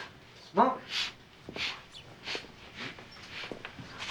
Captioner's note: Joe sniffing